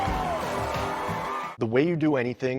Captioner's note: crowd continues cheering